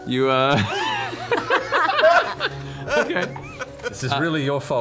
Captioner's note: laughter